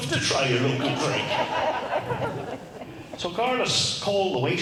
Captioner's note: crowd laughs